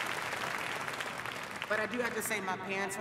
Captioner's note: applause